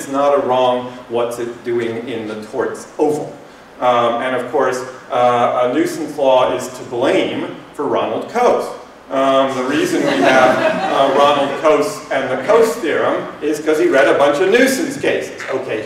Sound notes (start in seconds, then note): 9.6 laughter